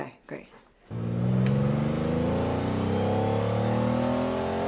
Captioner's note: engine revving